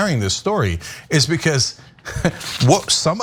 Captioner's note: laugh